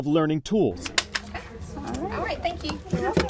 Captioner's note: stapler clicking